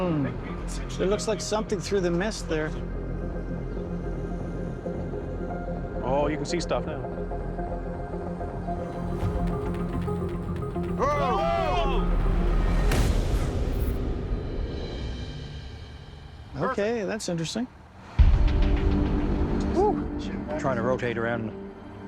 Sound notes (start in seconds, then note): 2.6 dramatic music playing; 11.0 all exclaim